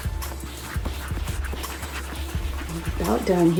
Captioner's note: yarn swooshing